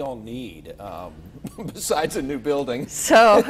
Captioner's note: chuckling